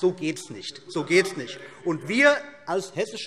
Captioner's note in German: Zurufe SPD